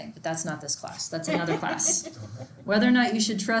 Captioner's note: students laugh